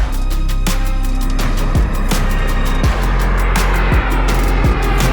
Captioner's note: plane whirring